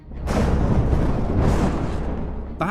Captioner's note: thunder